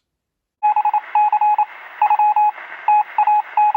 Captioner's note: morse code sounds